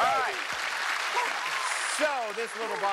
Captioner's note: applause